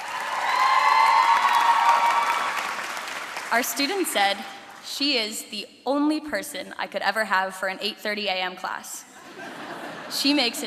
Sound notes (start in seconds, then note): 4.1 cheering